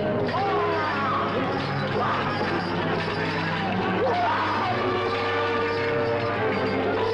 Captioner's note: chains rattling; grunting